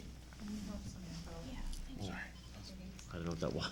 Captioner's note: chatter and background noise